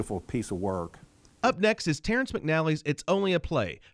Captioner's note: voiceover